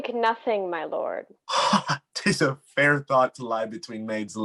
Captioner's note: laughing